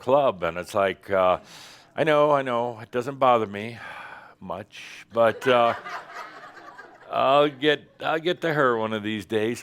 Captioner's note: more laughter